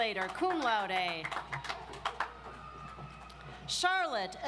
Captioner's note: audience applauds